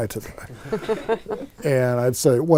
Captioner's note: laughing